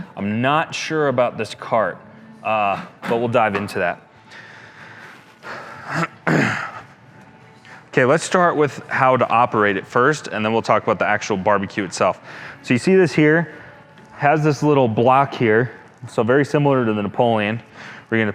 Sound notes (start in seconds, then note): 5.9 clears throat